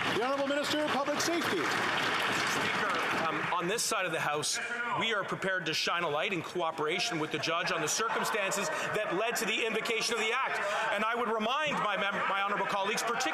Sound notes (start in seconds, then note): 3.5 applause